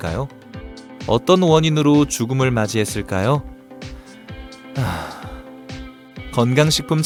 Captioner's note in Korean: 깊은 한숨